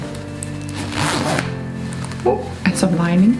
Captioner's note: zipping bag